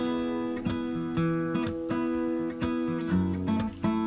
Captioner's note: gentle guitar music; water splashing